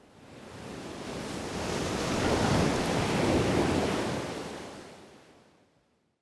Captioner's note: waves splashing